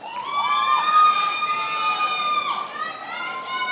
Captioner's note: attendees applauding and cheering